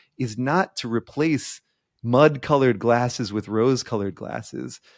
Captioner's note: none